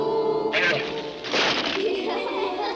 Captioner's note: crash; children laugh